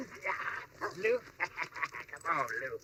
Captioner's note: laughs